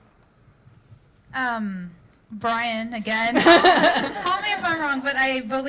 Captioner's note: laughing